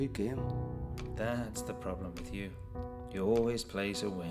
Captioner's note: clicking